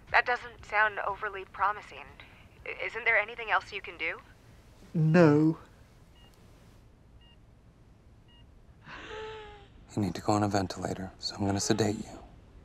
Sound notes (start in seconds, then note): 8.3 wheezing